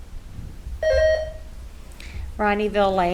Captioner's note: buzzer ringing